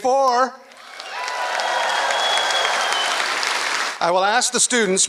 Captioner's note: applause